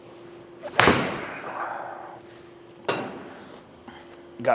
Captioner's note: club smacks ball